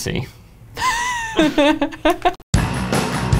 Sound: laughs; outro music

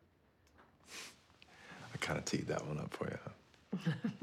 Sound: snickers; laughing

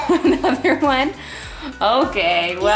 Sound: laughs

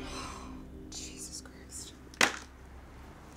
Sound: sighs in relief

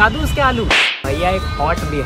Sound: slap

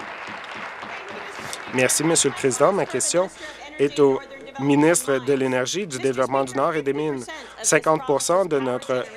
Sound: cheers; applause

